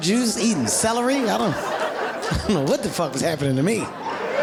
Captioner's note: laughs; audience laughing